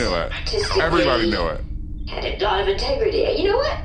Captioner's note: muttering to herself